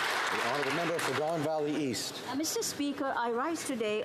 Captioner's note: some Applause